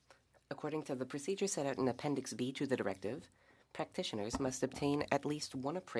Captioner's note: speaking French